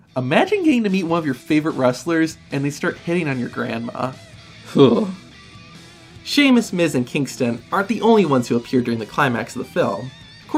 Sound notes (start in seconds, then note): 4.6 scoffs